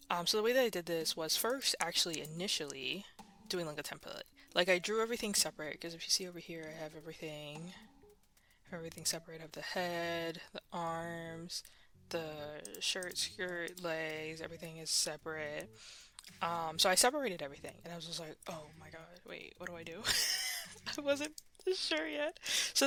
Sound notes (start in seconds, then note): 20.0 laughs; 20.7 laughing Continues